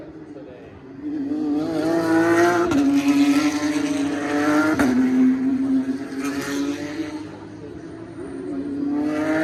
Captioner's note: louder car sounds